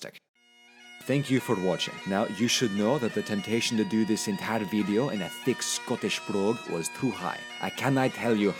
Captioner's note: in Scottish accent with bagpipes playing